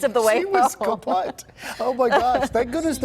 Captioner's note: laughter